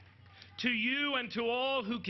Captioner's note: applause